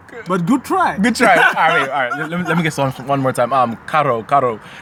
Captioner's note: laughs